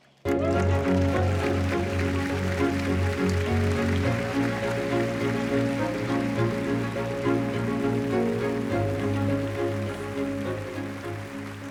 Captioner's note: applause